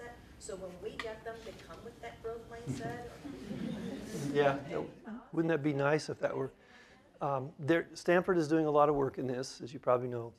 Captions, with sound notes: so when we get them they come with that growth mindset? [Laughter] >> Yes; wouldn't that be nice if there -- Stanford is doing a lot of work in this, as you probably know.